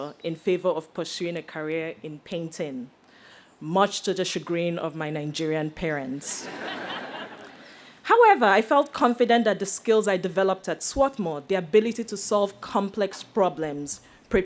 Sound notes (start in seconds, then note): 6.3 audience laughs